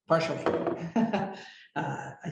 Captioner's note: laughing